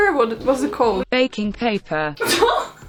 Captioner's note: Google translate voice: "baking paper"